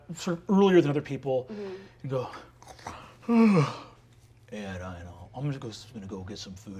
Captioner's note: yawns